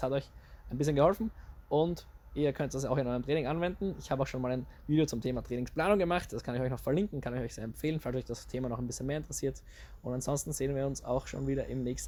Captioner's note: in german